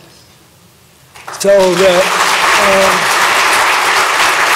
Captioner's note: applause